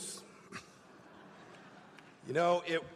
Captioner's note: laughter